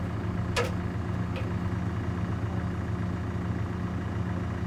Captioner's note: metal clanking